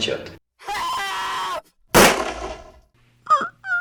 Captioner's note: screaming and gunshot sound